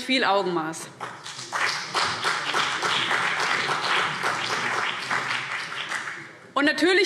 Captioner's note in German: Beifall CDU und BÜNDNIS 90/DIE GRÜNEN